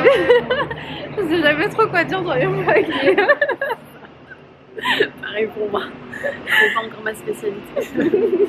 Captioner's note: laughs